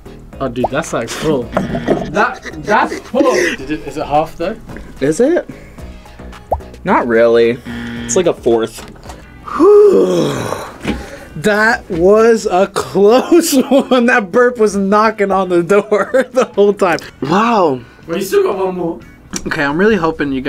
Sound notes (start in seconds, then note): 7.6 buzzer; 9.4 sighs loudly